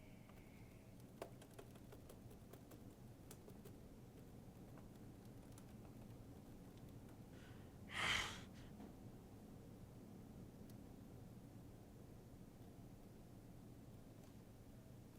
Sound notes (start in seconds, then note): 1.1 keyboard taps; 7.9 Hero grunts